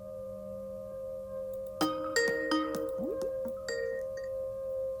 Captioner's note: Skype ringtone